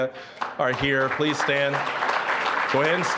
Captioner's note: applause